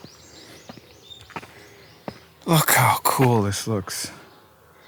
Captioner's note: birds chirping